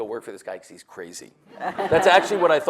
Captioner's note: audience laughs